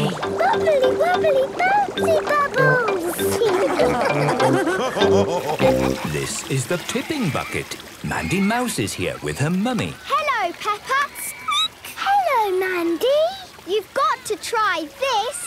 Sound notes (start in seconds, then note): 3.3 all laughing